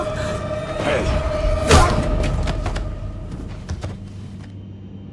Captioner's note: fist thumping